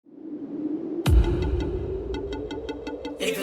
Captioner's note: wind